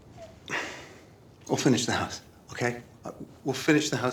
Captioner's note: sighs